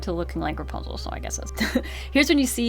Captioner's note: laughs